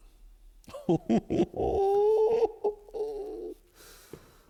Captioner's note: laughing